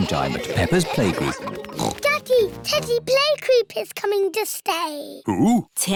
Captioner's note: oinks